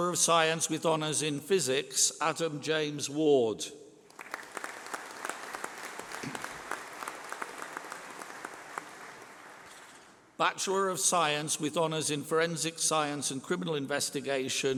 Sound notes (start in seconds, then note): 4.0 applause